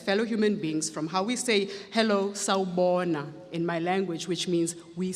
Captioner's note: speaks foreign language